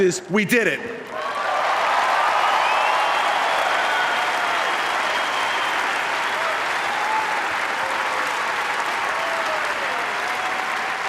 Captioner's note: appplause